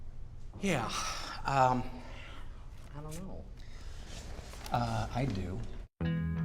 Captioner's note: sighing